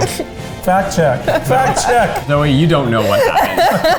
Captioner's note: laughing